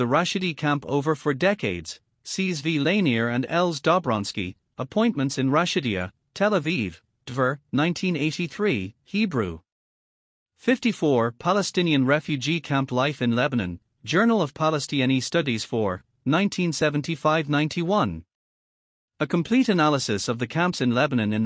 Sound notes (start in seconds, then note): 8.2 Hebrew